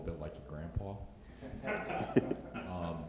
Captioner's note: laughter